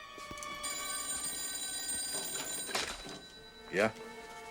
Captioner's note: telephone rings